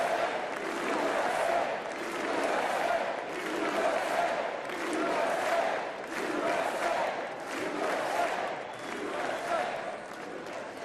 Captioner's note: chanting "usa"